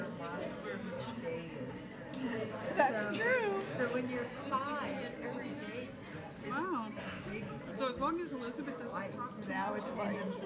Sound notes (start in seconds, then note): 0.1 people chattering; 4.4 people chattering